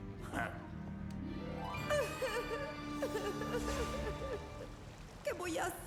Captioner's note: crying